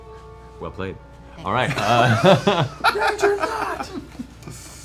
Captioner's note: laughter